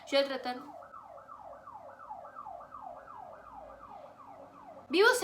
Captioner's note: ambulance siren